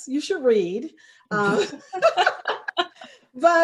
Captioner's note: all laughing